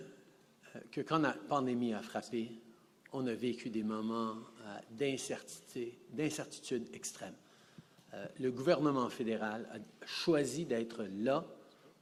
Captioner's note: speaking French